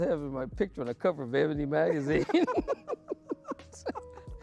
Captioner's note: laughing